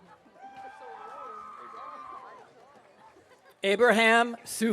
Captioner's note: audience cheering